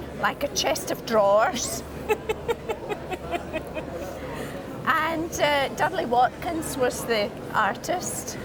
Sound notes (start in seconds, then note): 2.0 both laugh